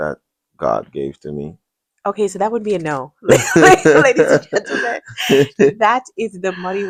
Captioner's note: laughter